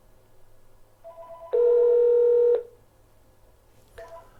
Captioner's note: phone's ringing and ringback tone